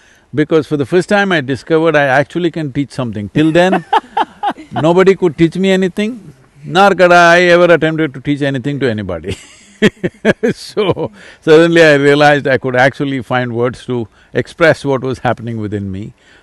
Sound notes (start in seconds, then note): 3.3 laughs; 9.3 laughs